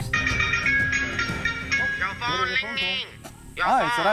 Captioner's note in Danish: telefon ringetone